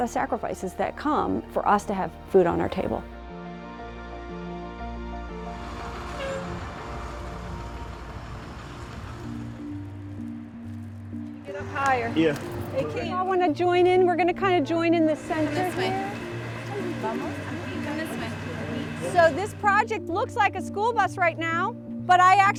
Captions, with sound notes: There's a lot of sacrifices that come for us to have food on our table. [bus breaking] - Can we get up higher? - Yeah. - If you all wanna join in we're gonna kind of join in the center here. - Come this way. - Vamos, aqui. - Come this way. - So this project looks like a school bus right now